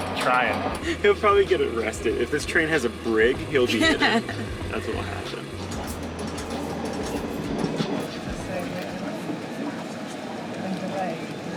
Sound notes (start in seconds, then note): 3.4 laughing